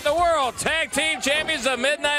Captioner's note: crowd cheering